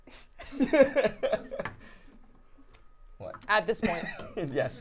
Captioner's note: laughing